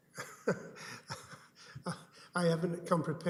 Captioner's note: chuckles